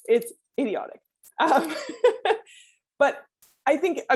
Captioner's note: laughs